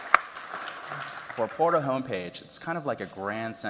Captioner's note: applause